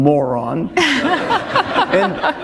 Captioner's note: laughter